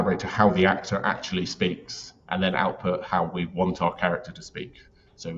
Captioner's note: none